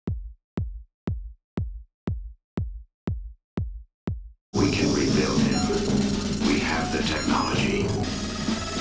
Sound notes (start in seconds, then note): 0.3 heart thumping; 7.7 computer whirring